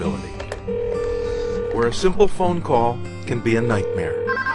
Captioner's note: phone rings; phone rings